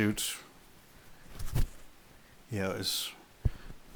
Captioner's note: fabric rustling